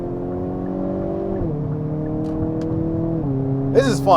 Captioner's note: motor roaring